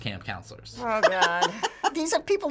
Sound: laughing

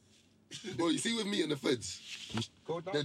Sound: talking

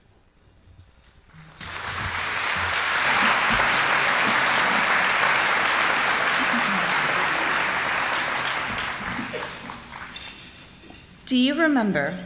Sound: applause

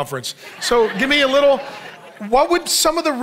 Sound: congregation laughing

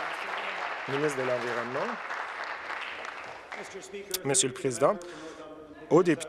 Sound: applause

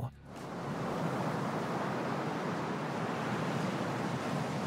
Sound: waves crashing

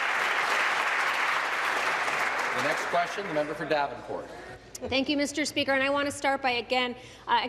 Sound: applause

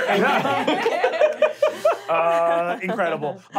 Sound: laughing

